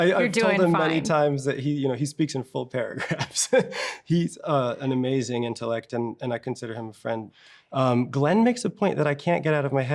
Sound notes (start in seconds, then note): 3.0 chuckles